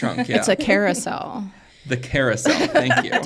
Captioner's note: laughs